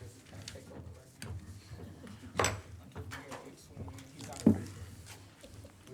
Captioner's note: speaking off microphone